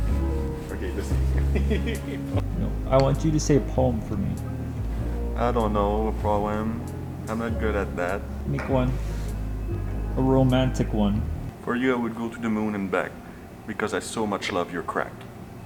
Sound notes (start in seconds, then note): 0.9 laughing